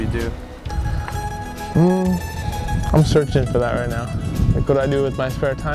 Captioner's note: mmm